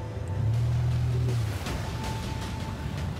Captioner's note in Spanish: ruido al acelerar; golpes